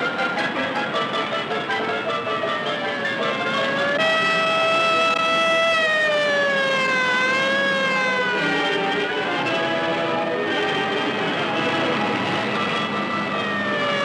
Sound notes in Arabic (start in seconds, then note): 6.4 صافرات الإنذار تصرخ